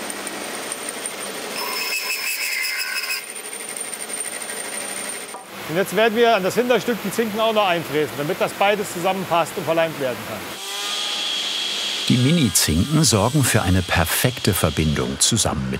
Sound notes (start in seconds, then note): 1.8 high milling whirring noise